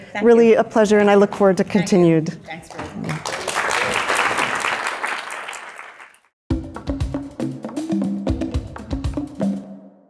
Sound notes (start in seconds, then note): 2.6 audience clapping; 6.5 upbeat instrumental music